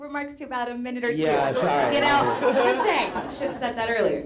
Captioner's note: audience laughs